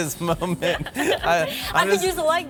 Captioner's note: both laugh